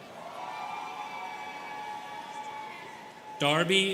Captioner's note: students cheering